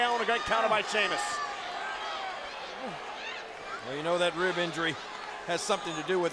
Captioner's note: applause